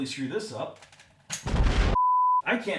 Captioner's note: blasting